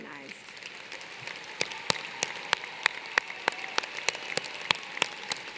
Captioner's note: applause